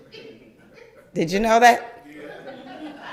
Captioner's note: crowd laugther